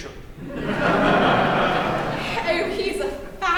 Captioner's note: laughter